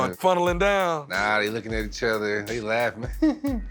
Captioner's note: laughs; laughter